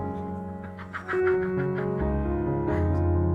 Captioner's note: laughter